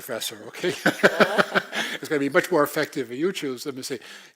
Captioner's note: laugh